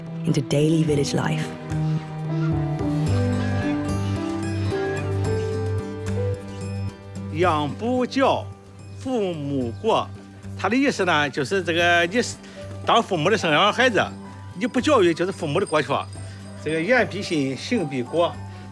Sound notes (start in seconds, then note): 2.2 gentle music; 7.4 speaking Chinese